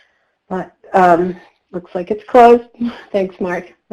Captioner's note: laughs